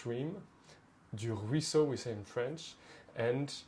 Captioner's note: speaks French